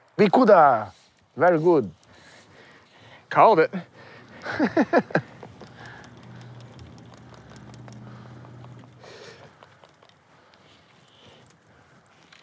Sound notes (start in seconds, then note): 4.3 laughter